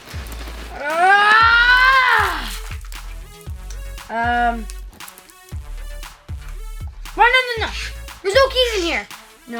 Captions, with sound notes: (yelling) No, no, no, there's no keys in here!